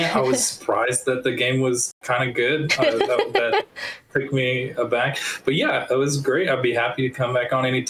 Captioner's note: laughing